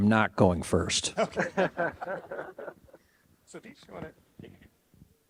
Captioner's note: all laughing